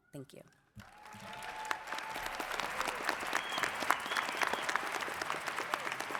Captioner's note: audience cheers and applauds